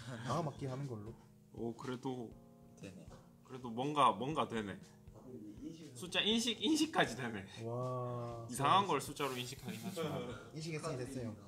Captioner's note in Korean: 웃음